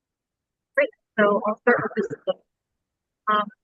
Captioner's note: audio distorts